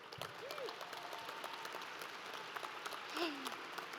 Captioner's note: audience applauds